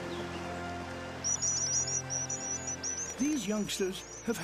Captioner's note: chirping